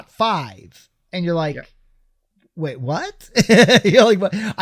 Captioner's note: chuckles